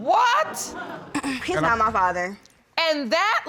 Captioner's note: clears throat